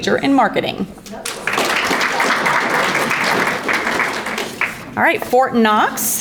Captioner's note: audience applauding